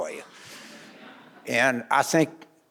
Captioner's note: audience laughing